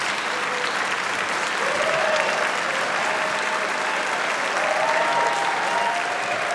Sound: applause

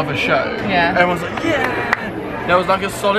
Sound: clapping

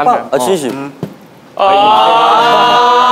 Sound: tap

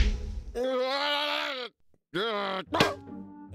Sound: shouts

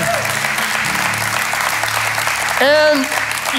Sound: congregation claps

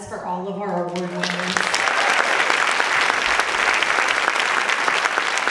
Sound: audience clapping

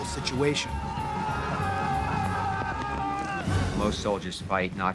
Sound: shouting

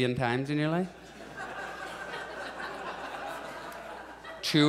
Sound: audience chuckles

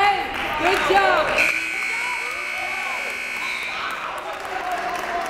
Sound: timer buzzes

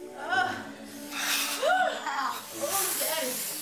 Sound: Peaches moaning

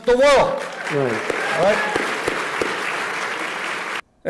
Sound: applause

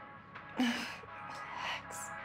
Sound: exhales

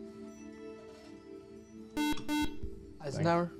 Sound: buzzer

